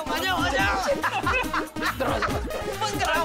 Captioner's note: laughs